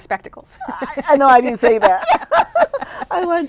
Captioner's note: laughing